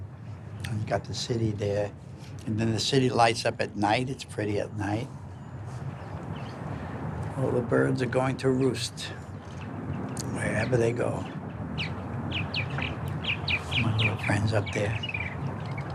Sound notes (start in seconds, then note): 11.9 birds chirping